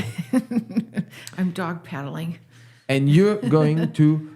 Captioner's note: laughs